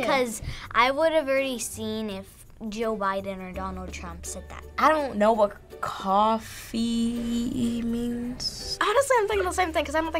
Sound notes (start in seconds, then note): none